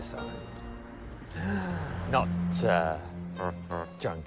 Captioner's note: gasps